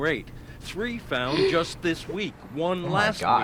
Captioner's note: gasps